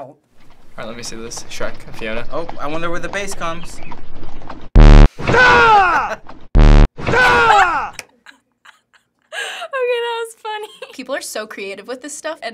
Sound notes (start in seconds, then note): 4.5 blare; 5.3 Shrek yowls in rage; 6.5 blare; 7.2 Shrek yowls in rage; 7.2 laughs